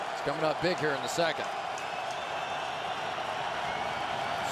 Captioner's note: crowd cheering